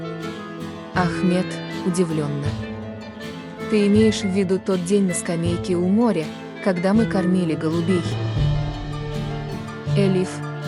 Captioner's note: surprised